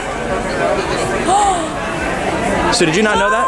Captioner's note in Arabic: تلهث